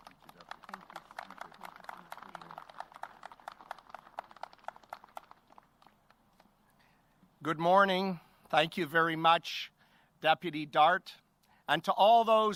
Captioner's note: applause